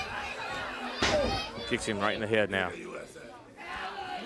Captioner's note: crowd chatter